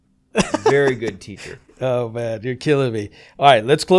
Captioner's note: chuckles